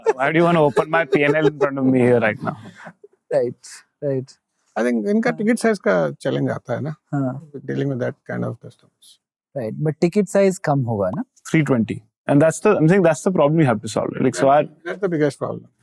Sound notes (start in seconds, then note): 4.6 speaking in Hindi; 9.5 speaking in Hindi